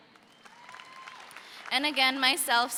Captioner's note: audience cheers